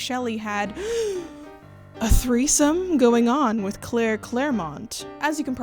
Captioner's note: gasp